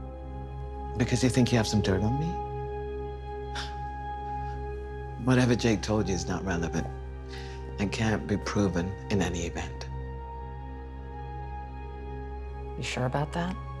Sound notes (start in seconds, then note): 3.1 scoffs